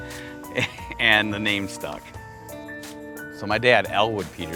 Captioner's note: laughs